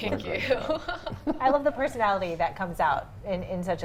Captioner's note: laughs